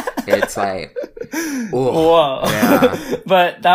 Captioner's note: laughs